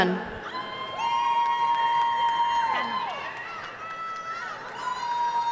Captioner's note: audience cheering and applauding